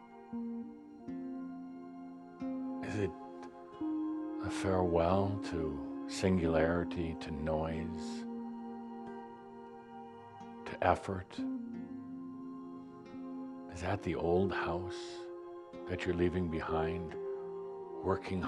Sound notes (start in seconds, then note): none